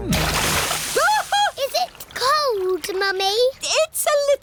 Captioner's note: shrieks